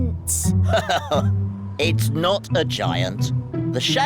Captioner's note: laughs